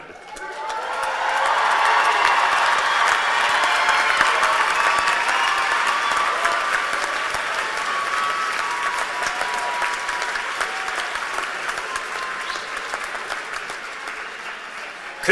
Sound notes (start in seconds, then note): 0.0 cheers and applause